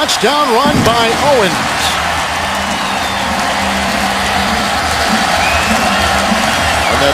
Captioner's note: cheers and applause